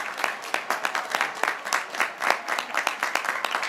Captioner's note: graduates cheering